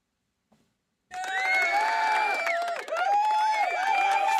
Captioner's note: cheering